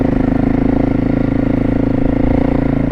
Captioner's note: engine